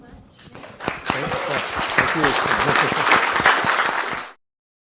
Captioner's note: audience applauds